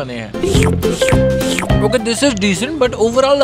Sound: slurp! slurp!

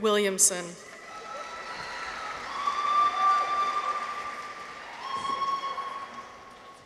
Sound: people cheer; audience applauds

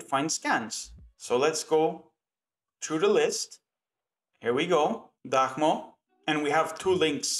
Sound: in Ukrainian

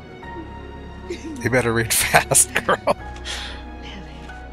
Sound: chuckling

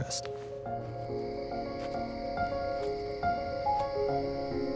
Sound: insects chirping

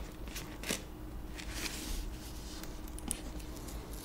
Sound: letter whirring

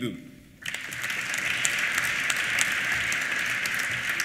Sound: applause

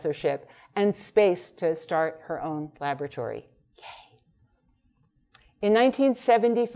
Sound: whispering

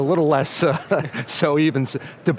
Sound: laughs

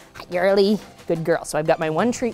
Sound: kissing sounds

